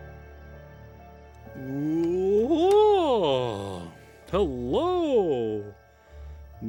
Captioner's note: Mal Silly Voice